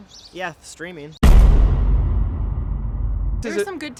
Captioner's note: loud thud